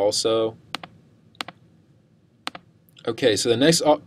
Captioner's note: mouse clicking